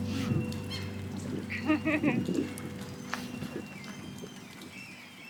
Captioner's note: laughs